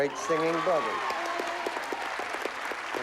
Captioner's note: applause